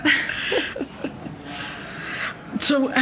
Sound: laughing together

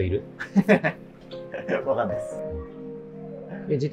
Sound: laughing

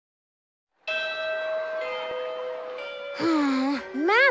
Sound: school bell

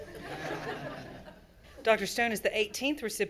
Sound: all laughing

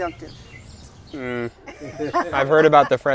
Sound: people laughing

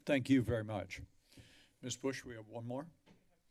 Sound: none

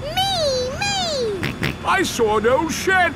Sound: snorts

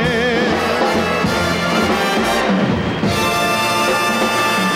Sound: audience applauding

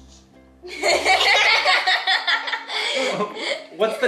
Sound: family laughing

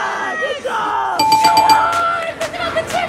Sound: cheering

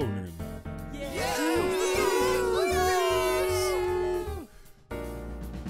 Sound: everyone cheers

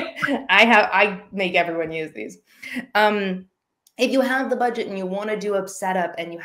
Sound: laughing

